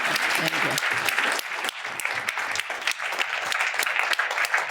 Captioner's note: applause